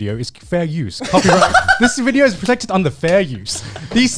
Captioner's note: laughs